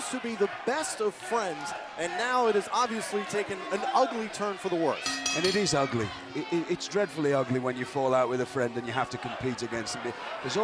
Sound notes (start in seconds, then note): 5.0 bell ringing